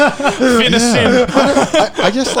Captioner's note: laughs